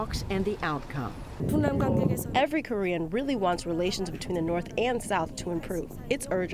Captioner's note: through translator